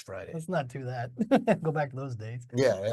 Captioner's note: chuckles